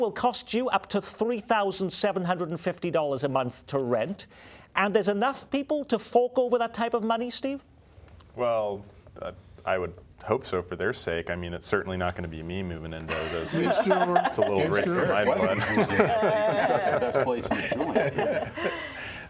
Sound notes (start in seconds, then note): 13.1 laughter